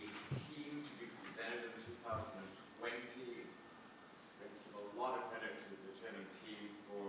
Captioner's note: faintly speaking